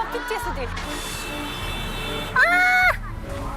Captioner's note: hellish honking